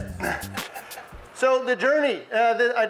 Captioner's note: audience laughs